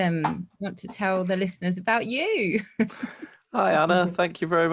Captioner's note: chuckles